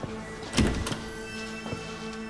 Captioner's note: suspenseful music; door opens